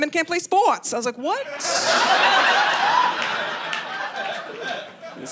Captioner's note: audience laughing